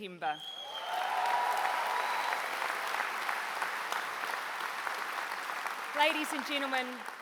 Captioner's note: applause